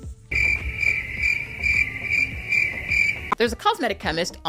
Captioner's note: crickets chirping